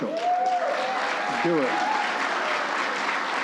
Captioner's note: applause